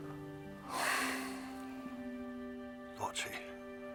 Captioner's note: sighs deeply